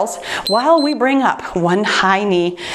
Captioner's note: timer beeps